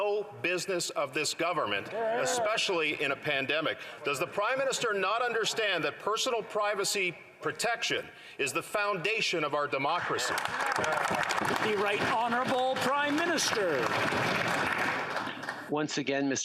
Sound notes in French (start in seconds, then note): 2.6 voix de l'interprète